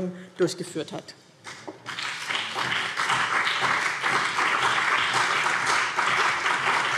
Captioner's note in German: Beifall BÜNDNIS 90/DIE GRÜNEN und CDU